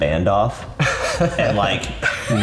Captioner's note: laughs